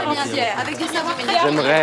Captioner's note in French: aplaudissement